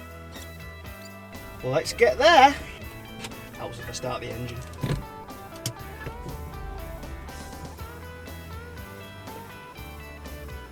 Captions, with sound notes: let's get there helps if i start the engine [car start noise]